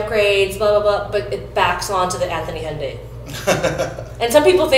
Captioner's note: laughs